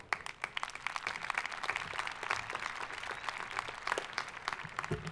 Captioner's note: audience applauding